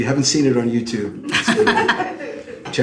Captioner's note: laughs